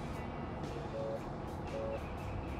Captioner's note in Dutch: telefoon gaat